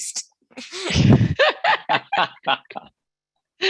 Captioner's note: all laughing